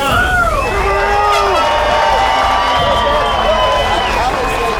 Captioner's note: crowd cheering